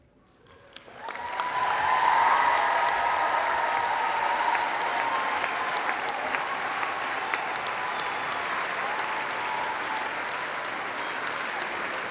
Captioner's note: applause